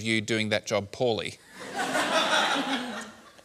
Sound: laughter

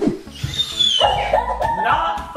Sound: screeching

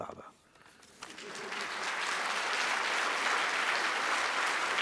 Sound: audience applause

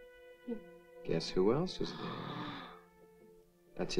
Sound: Amanda gasps

